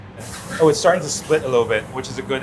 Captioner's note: food sizzles